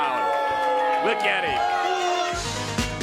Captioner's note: crowd cheering